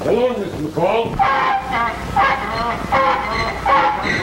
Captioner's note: engine starting